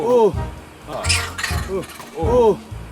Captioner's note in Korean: 원숭이 울음소리